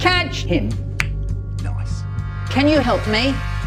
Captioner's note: click